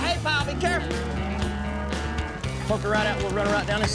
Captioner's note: mooing